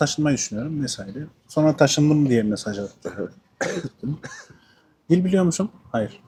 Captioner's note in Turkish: boğazını temizler